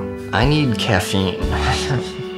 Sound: laughs

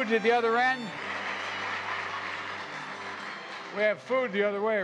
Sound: applause

